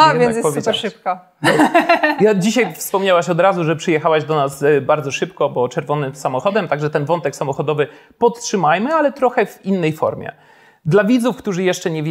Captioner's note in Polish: śmiech